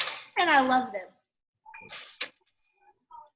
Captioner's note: none